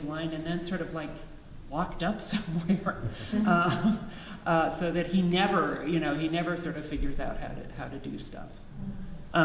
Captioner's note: audience laughs